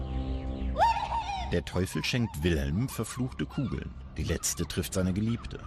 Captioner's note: German narration